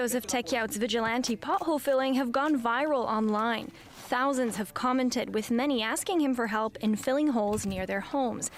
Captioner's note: speaking French